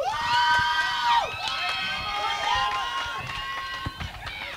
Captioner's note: crowd cheering